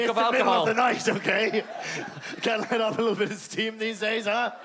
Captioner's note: laughing